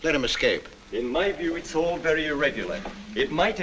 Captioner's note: voice from background